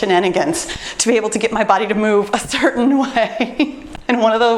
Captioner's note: laughs